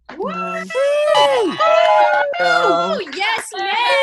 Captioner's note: attendees cheering; attendees applauding